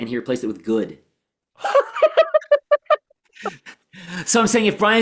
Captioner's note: laughs